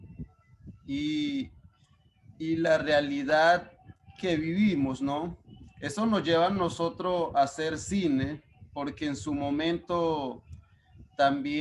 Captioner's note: speaking Spanish